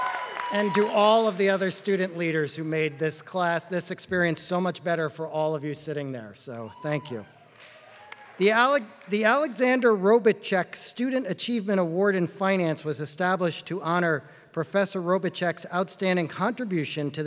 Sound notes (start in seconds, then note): 0.0 applause; 7.5 applause